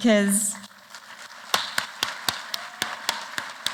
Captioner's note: applause